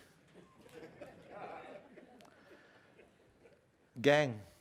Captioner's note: audience laughing